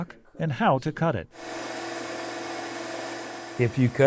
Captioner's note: machine whirring